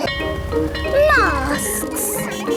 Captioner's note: bell ringing